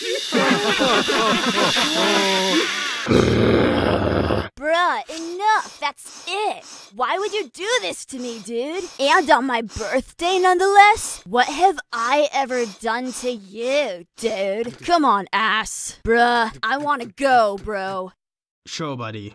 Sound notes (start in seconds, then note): 0.0 laugh; 0.0 laughs; 2.0 roars